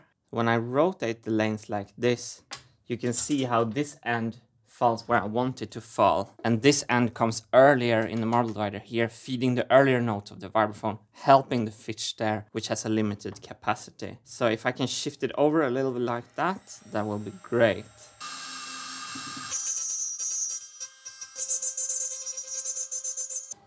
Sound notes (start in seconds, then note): 18.1 CNC machine whirring; 20.4 CNC machine whining